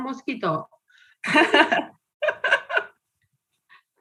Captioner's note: laughing